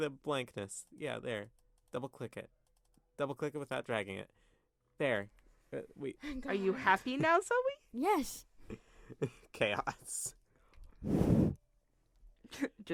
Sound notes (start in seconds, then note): 11.1 microphone weirdness